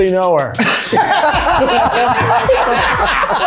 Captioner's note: everyone laughing at excellent joke; light upbeat music